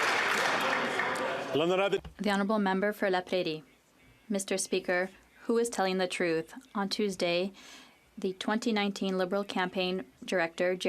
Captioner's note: some Applause